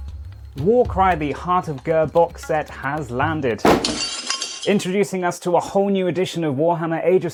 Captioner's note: smashing sound